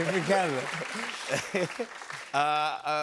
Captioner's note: laughs